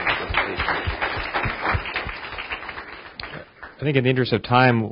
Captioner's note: audience applauding